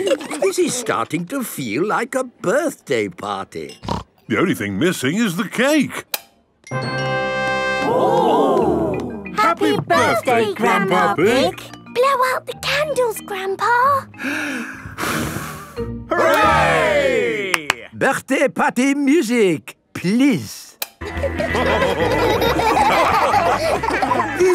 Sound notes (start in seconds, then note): 6.5 click; 14.2 breathes deeply, blows; 17.4 claps; 21.3 dance party music